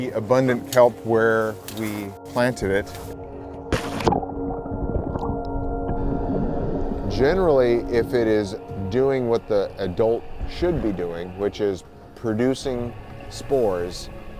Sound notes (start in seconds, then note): 3.4 water splashing